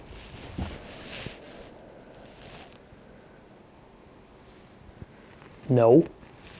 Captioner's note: profound canine silence